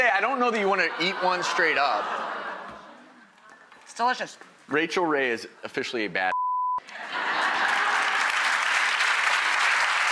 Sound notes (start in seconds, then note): 2.0 crowd laughs; 6.8 crowd applauds